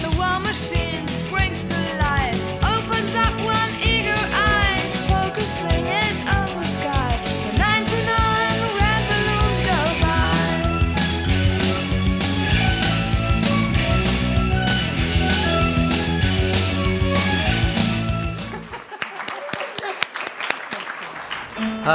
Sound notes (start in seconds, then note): 18.4 laughter